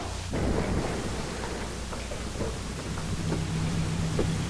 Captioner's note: car engine revving